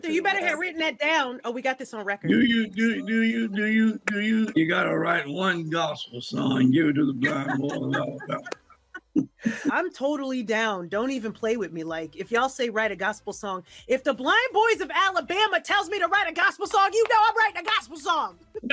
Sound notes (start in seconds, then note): 7.0 laughs